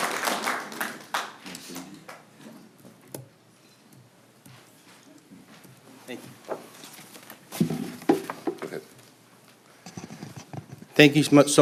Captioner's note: applause